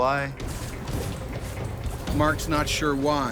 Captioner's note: scraping; voiceover